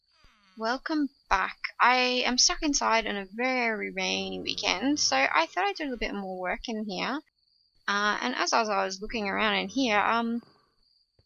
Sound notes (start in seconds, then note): none